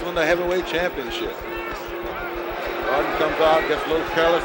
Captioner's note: bell sounds